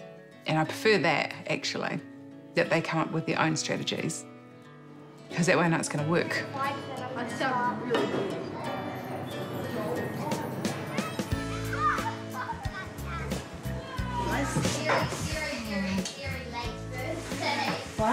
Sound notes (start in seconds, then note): 8.3 gentle music; 10.7 children scream, laugh